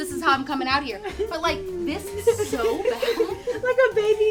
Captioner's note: laugh